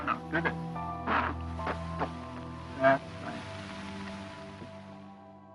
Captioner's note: grunts